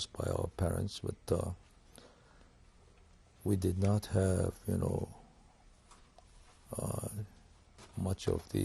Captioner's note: pauses for 3 seconds